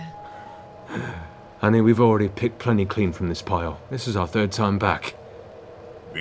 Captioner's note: laughs